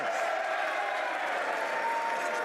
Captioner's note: some Applause